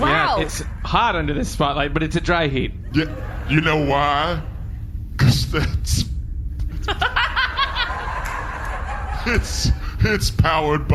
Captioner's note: laughs